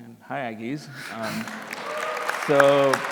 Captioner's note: applause, cheering